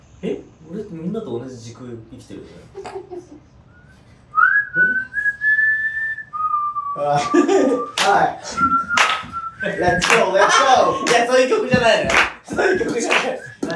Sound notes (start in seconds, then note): 8.1 whistling; 8.9 claps